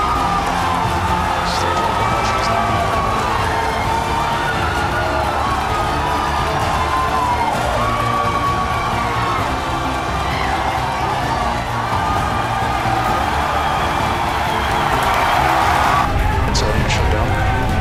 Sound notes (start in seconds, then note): 4.6 cheering continues